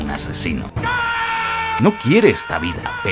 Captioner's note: screams